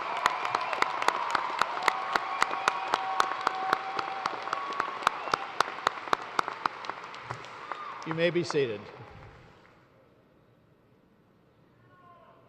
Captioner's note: cheers and applause